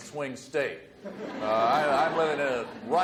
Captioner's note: audience laughs